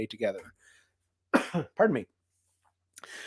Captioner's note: coughs